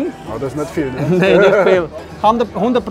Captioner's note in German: lacht